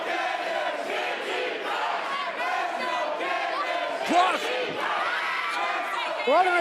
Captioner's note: fans chanting